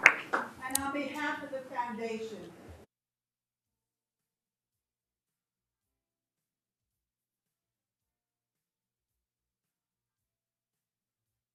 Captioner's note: applause